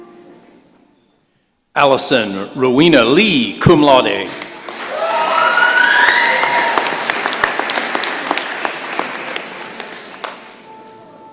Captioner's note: applause and cheers